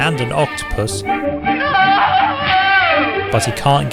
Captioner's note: yells